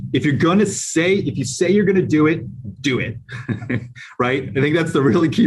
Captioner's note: laughs